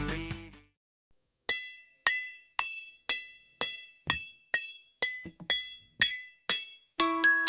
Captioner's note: clanging cocktail glasses